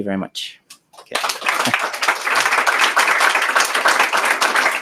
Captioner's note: applause